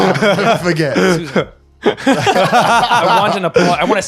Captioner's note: laughing